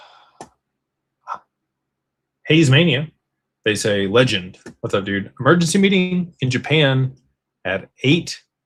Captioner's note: sighs